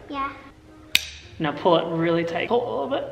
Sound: buckle clicks

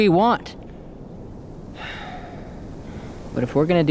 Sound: Adrian sighing

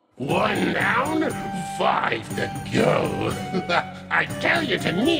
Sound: chuckles

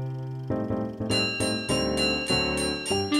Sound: trolley bell ringing

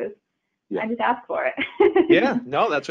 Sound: chuckling

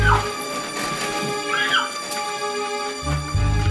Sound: Renee screams

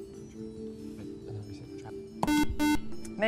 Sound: buzzer

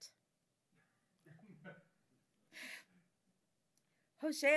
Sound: audience giggling

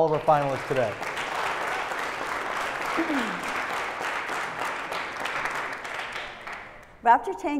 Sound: applause

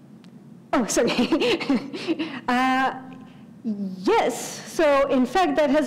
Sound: laugh

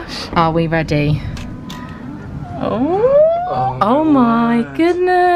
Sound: door creaks

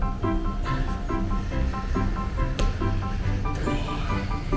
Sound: laughs

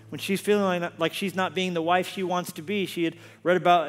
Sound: none

